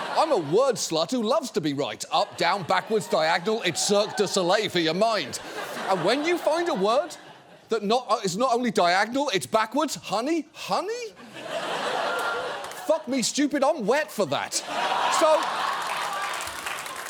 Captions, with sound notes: I'm a word slut who loves to be right. Up, down, backwards, diagonal, it's Cirque du Soleil for your mind. And when you find a word that is not only diagonal, it's backwards, honey, honey? (AUDIENCE LAUGHS) Fuck me stupid, I'm wet for that. -(AUDIENCE LAUGHS, APPLAUDS) -So...